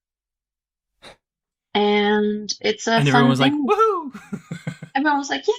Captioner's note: laughs